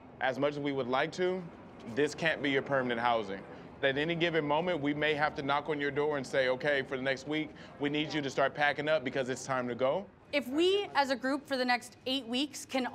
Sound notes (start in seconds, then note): none